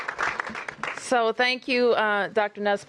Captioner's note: applause